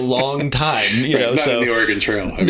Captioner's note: laughter